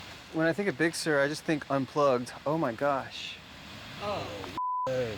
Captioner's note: beeping